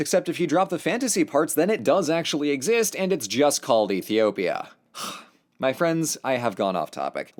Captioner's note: sigh